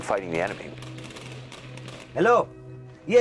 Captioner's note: automatic weapons chatter